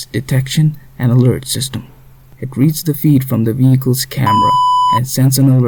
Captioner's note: beep